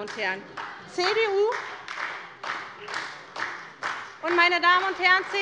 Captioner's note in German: Beifall bei der SPD